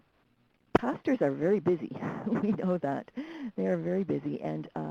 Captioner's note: chuckles